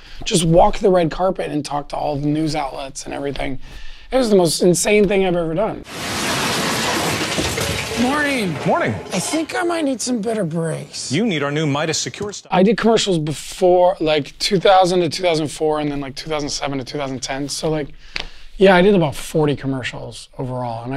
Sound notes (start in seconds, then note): 5.8 car crashes